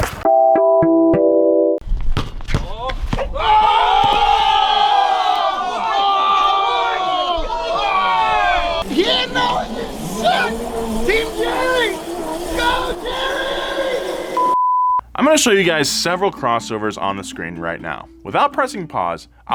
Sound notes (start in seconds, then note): 2.2 crowd cheering